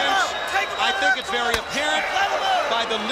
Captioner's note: crowd chatter